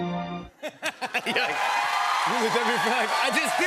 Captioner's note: laughs; cheers and applause